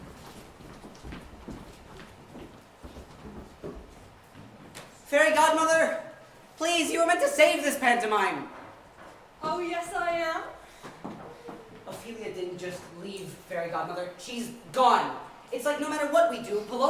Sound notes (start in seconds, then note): none